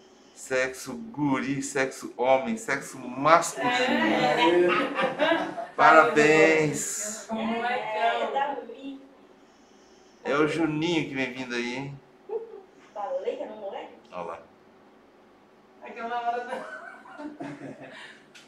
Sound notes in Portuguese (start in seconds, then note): 3.9 gritos de emoção